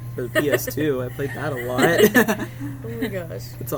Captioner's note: laughs